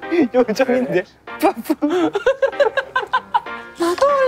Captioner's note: laughing out loud